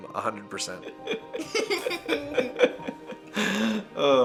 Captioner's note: laughs